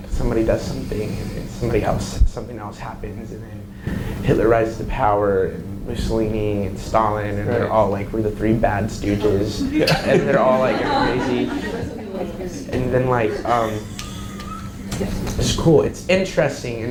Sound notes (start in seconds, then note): 9.5 audience laughs; 12.0 audience chatter